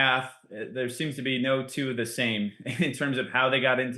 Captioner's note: laughs